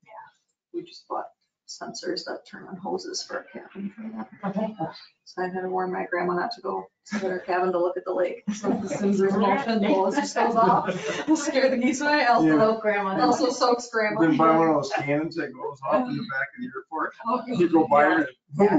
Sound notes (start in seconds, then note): 8.2 indistinct chatters